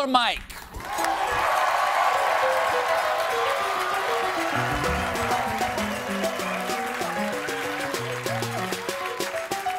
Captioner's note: cheers and applause